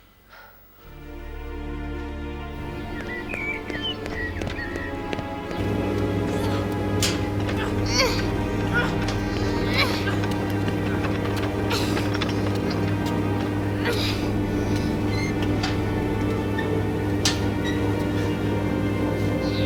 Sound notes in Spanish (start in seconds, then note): 0.4 música acústica suave; 7.2 gruñidos